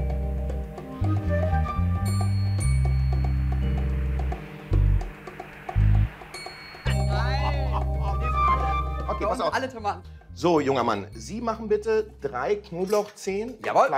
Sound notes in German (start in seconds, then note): 6.7 Fernes Lachen, ferne Stimmen